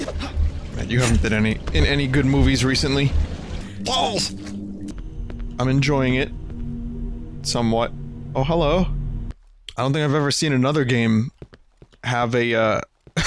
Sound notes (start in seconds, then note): 3.9 strange voice